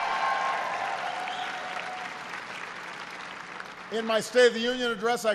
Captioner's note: applause